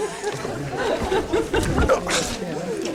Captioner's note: laughing